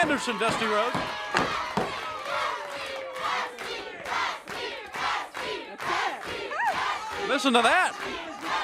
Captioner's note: crowd cheering